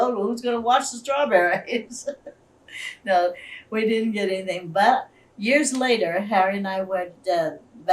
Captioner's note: laughs